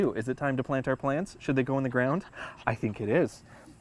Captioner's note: Kiko pants excitedly